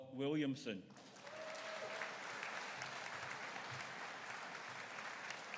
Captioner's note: audience cheering